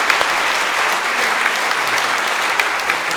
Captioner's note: applause